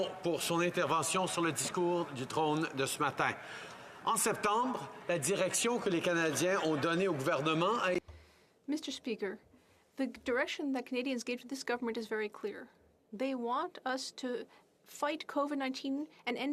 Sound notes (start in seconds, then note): 4.9 speaking French